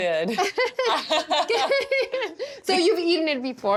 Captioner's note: laughs